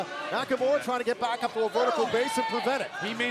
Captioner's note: crowd cheering